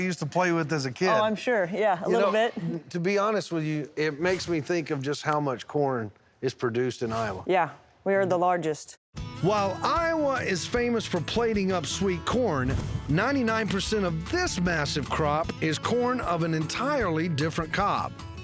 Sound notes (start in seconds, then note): none